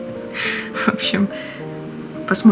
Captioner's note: laughs